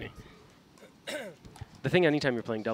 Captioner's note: clears throat